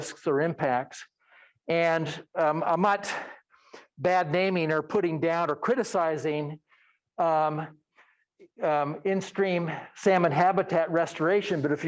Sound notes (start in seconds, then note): none